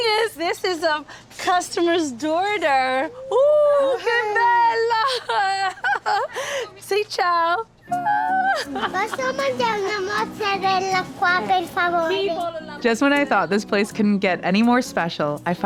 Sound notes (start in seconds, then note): 3.7 speaking Italian; 9.4 girl speaking in Italian